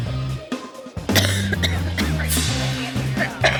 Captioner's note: coughs